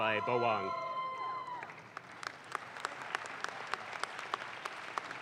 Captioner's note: audience claps